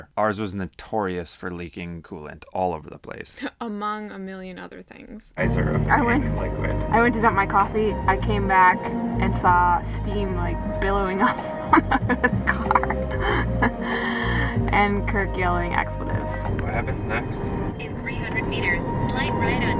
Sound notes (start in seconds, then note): 11.2 laughing